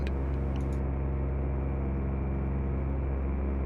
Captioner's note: engine hum